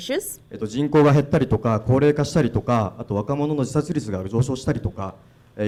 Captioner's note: speaking foreign language